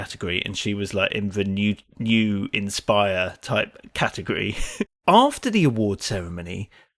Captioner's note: chuckles